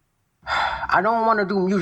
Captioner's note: exhale